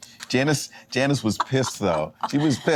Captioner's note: laughing